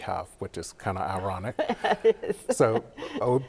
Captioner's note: chuckles